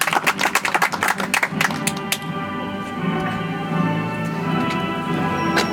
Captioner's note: audience applauds